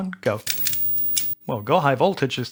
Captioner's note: clicking